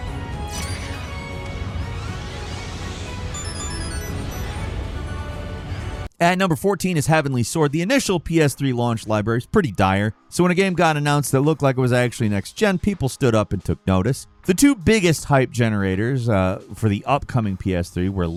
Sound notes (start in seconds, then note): 3.2 rings chiming